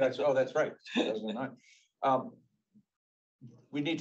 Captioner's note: laughs